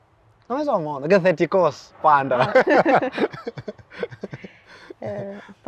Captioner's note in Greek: γέλια